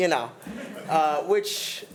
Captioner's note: attendees laughing